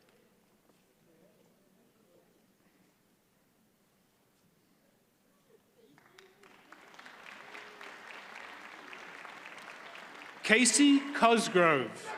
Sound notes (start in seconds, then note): 5.9 audience applauds